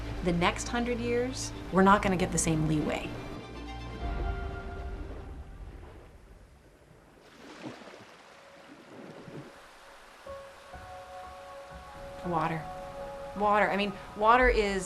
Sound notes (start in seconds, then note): 0.0 rushing water; 7.7 water splashing; 10.2 vibrant piano music